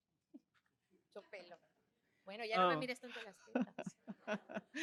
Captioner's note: speaking spanish; laughs